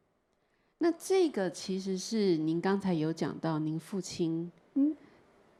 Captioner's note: Mandarin